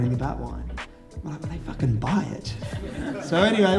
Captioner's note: laughter